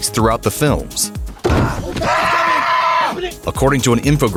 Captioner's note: screams